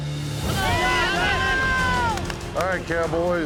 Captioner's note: cheering